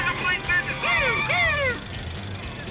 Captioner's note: imitating siren